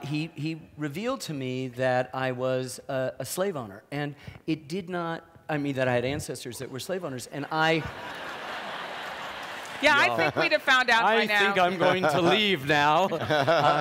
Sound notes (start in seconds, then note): 7.6 audience laughs